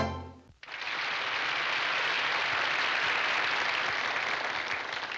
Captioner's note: audience clapping